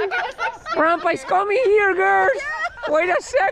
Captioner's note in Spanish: Con voz de anciano